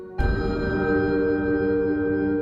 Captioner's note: eerie sound